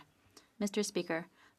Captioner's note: speaking French